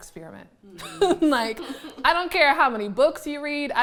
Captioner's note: laughing